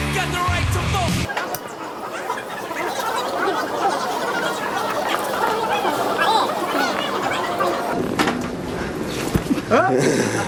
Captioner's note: sped up street noises